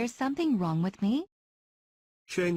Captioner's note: Vietnamese